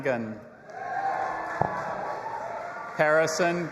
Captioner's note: audience applauding and cheering